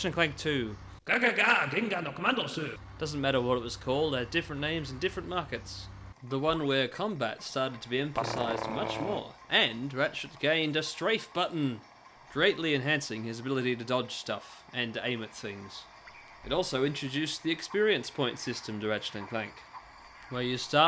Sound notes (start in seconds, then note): 7.3 COMBAT™ tank noises